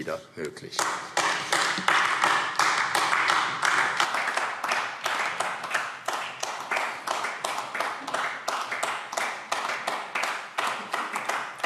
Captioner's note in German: Beifall AfD